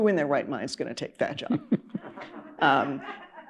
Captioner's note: laughter